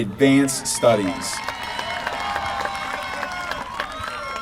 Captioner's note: applause